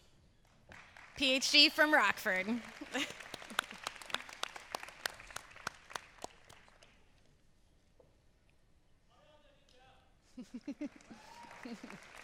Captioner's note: applause